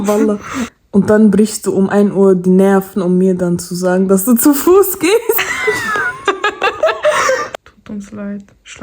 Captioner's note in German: gelächter